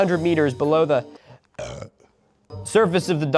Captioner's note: soft but deep burp